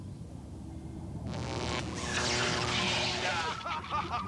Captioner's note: electricity crackles; laughing evilly